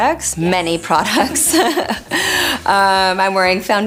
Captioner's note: laughing